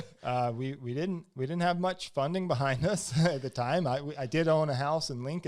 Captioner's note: laughs; laughs